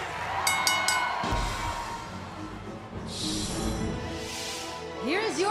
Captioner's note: bell ringing